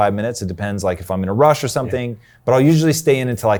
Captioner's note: murmuring